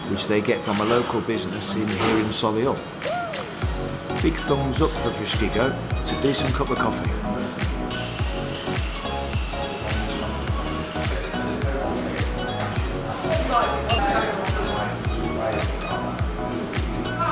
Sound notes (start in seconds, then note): 8.1 light bouncy music; 12.3 background customers talking